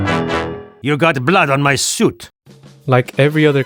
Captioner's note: French complaint